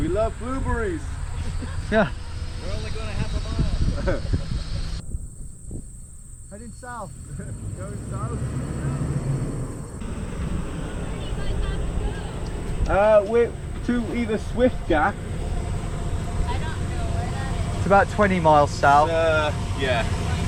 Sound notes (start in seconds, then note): 1.3 driver laughs; 9.2 car engine revving